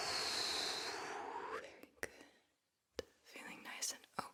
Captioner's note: long breath out